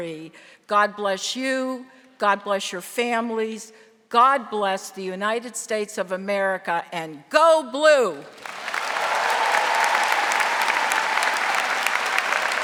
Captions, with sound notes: God bless you. God bless your families. God bless the United States of America, and go blue! (audience cheering)